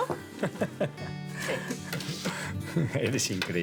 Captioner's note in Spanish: Risas